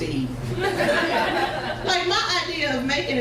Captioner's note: crowd laughs